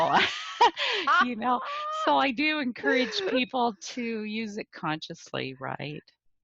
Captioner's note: laugh